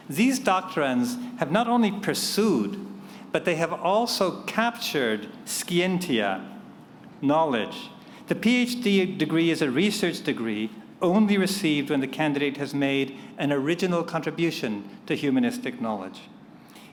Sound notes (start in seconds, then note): none